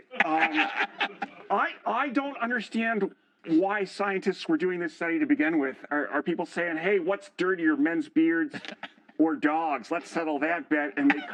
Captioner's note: laughter